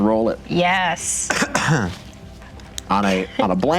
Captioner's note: dice rattling together